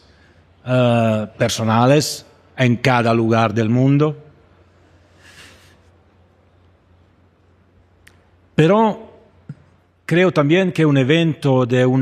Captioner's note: speaking Spanish